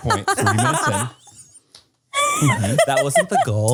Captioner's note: laugh